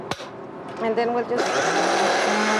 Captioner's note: blender whirring